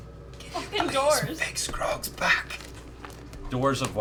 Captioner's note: whispering